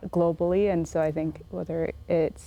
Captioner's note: none